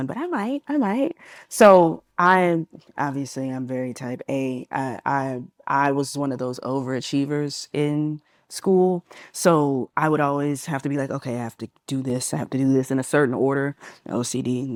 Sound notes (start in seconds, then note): none